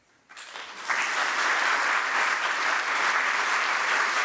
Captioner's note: audience applauding